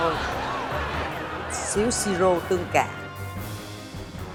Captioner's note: laughing